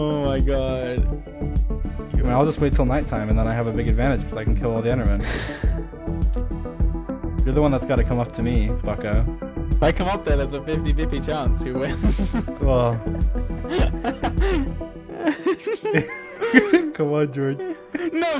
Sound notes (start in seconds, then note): 5.2 sighs; 13.6 laughing